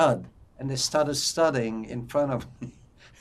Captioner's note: laughing